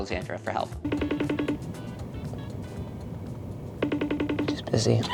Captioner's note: phone rings